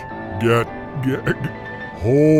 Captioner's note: Glob laughing